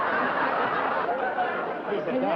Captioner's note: laughter